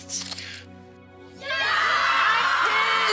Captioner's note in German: Jubel